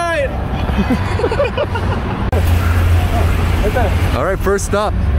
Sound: laughing

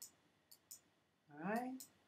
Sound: clicking

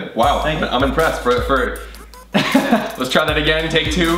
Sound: chuckles

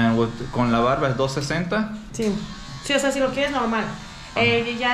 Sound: speaking in Spanish

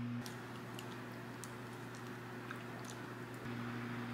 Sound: gulp

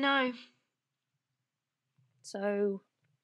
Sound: a pause

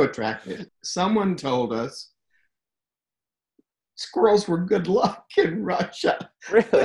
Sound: laughs

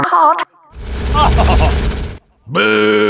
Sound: control point sounds, spy laughs

